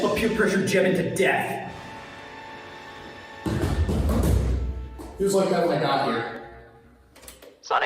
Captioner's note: Scott on tape player